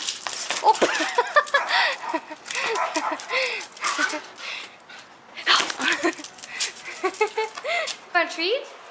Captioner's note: laughter